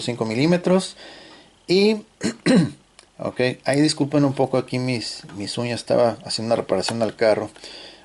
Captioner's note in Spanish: carraspeo